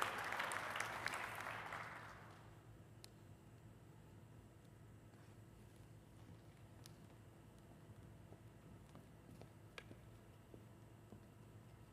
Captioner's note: applause